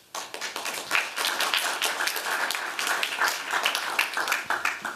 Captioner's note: applause